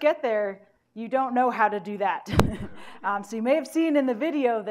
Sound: laughs

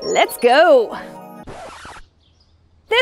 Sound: record scratches

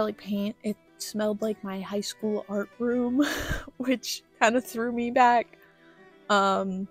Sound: laughter

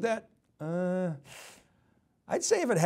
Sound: sucks in breath

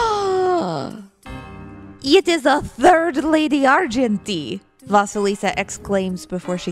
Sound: gasps

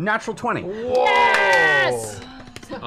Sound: yelling

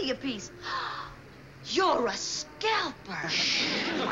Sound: gasps

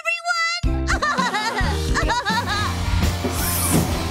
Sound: laughing

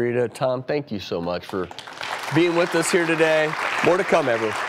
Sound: applause

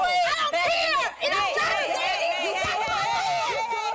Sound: yelling

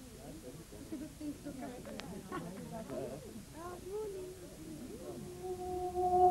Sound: chatter in the background

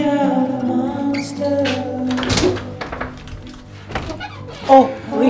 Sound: door opens

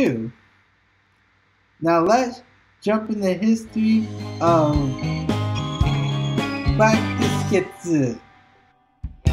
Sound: says in Japanese

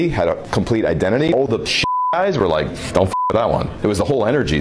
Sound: beep

